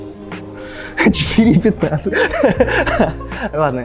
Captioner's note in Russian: Смеётся